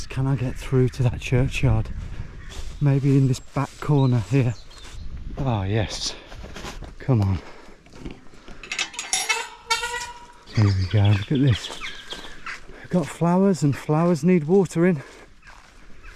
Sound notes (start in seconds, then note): 8.6 gate clanks and squeaks